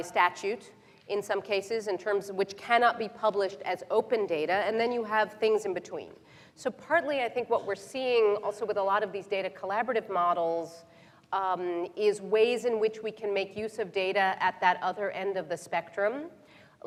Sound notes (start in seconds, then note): none